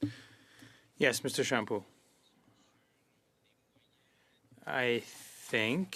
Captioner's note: speaking French